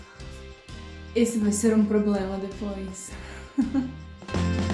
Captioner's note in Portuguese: risos